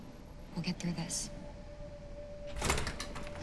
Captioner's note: door opens